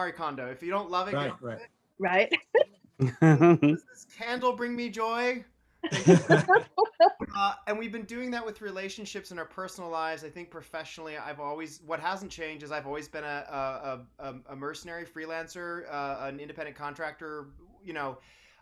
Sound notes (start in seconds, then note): 5.9 all laugh